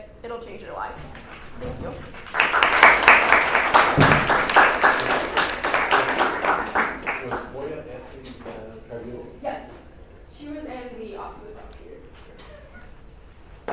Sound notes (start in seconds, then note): 2.5 audience claps